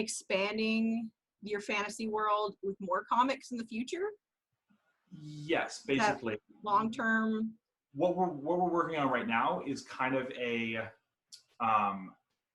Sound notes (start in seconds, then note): none